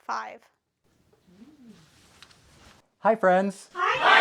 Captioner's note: belly Noises